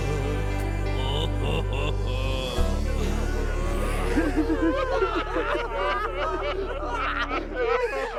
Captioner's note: all weeping as music ends